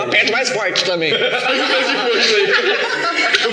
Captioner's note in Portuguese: risos